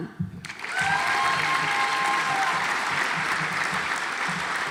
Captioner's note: audience applauds